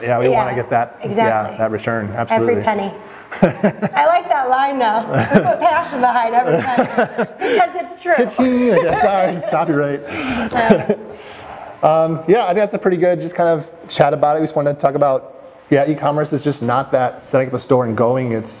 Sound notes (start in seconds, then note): 3.3 laughter; 6.3 chuckling; 9.6 laughter